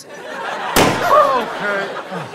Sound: audience laughter; pop

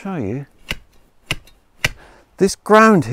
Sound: shovel taps

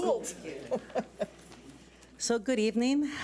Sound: laughs

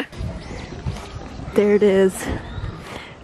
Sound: birds chirping

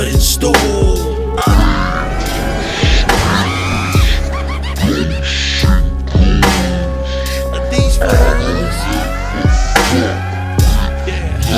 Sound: demonic voices

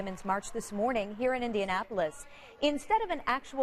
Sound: cheering

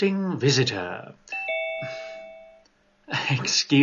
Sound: bell rings, signalling someone has joined the call

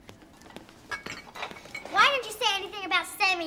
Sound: bottles clinking

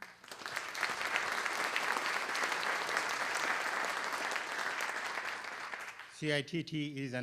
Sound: applause

